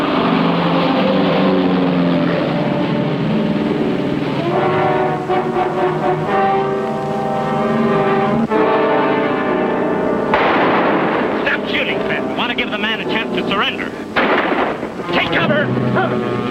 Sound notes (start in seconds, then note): 4.8 tense orchestral music; 10.3 gunfire pops; 14.1 rifle blasts; 16.3 tense orchestral music